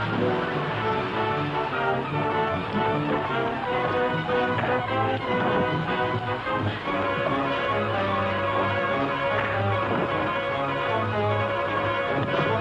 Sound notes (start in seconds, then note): 9.8 gunshots